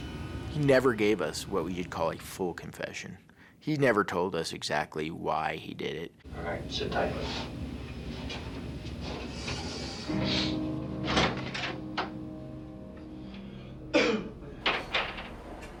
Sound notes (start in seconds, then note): 10.9 door opens; 13.9 coughs; 14.5 door closes